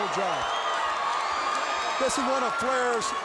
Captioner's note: crowd cheering